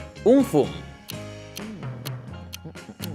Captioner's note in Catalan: Tic-tac